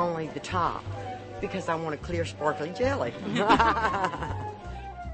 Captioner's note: laughter